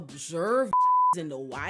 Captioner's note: beep